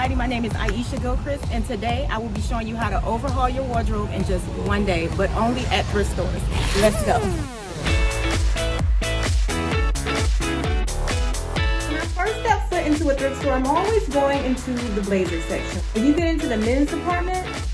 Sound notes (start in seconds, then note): 6.4 buzzing sound; 8.1 upbeat pop music